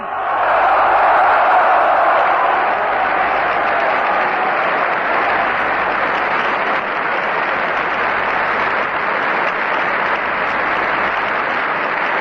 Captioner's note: applause